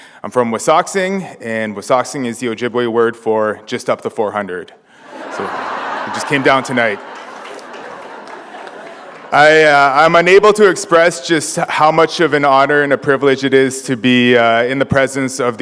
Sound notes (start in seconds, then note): 5.0 laughter